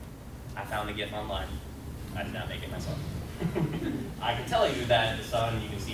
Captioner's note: laughter